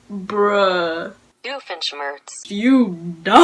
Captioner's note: Google Translate voice-over